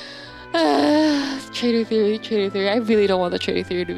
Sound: sigh

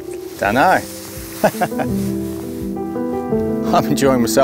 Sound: chuckles

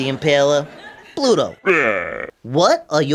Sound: Bluto exclaims

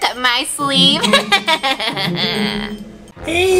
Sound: evil laughter

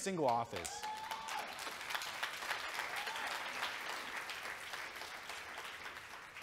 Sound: audience cheering and clapping

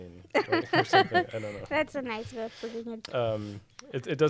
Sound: laughing

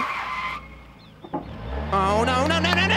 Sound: tires screech; vehicle reversing

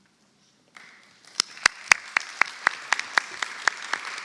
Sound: audience clapping

